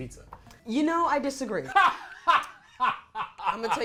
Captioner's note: laughing